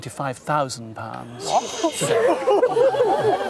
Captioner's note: crowd gasping and laughing